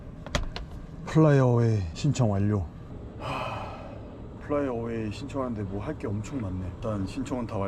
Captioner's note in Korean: 한숨